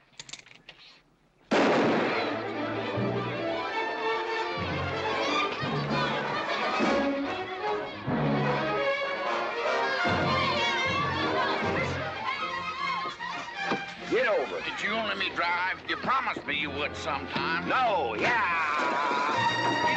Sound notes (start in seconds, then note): 0.1 pistol charging; 1.5 gunshot; 2.9 children yelling excitedly